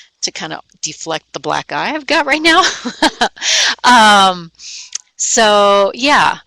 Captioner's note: laughing